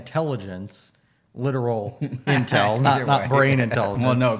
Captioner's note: laughs